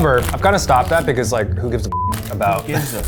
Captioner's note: beeps